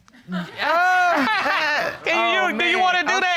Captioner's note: Judge Dana laughs